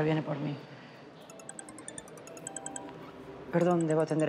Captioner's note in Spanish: Suena celular